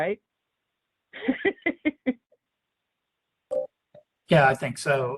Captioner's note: laughs